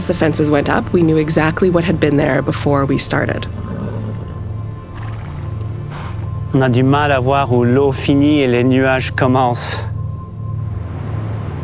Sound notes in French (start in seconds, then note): 3.6 bruit du vent